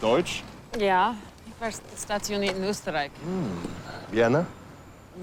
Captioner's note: Kurt speaking in foreign language; Remi speaking in foreign language